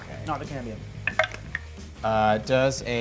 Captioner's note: die rolls